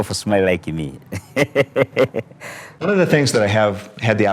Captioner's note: laughing